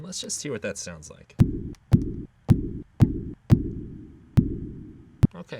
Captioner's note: repetitive pulsing